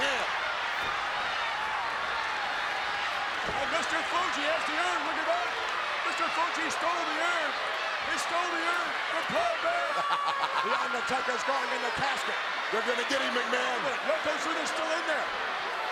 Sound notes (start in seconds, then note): 0.4 applause; 9.9 laugh